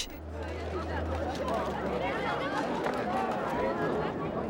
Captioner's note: group chattering